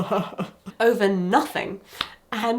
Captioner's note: person crying